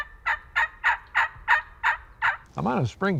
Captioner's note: turkey calling